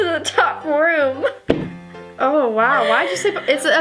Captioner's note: laughs